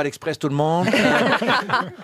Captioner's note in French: rires